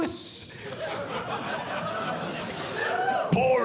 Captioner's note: audience Laughing